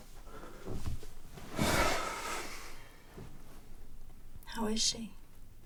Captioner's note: Bryan sighs